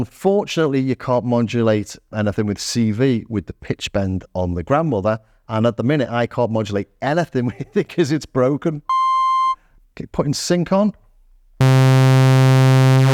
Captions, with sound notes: Unfortunately, you can't modulate anything with CV with the pitch bend on the grandmother. And at the minute, I can't modulate anything because it's broken. (beeping) Keep putting sync on.